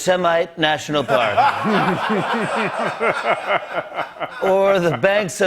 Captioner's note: laughter